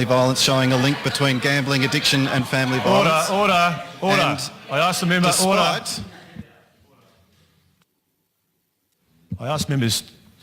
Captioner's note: members interjecting